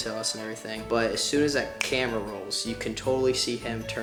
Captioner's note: finger snaps